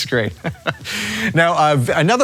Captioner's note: laughs